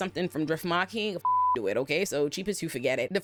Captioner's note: beep